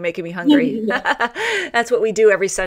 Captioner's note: laughter